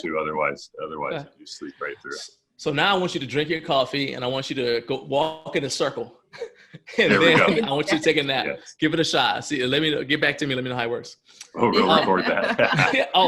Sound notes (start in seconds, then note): 6.4 laughs; 11.5 laughs